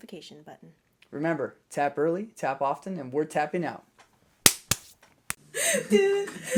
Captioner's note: hands slapping; laughter